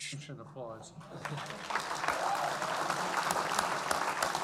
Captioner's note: audience applauding